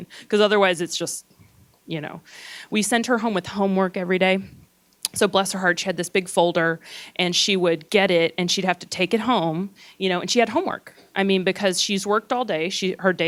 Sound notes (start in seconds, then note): none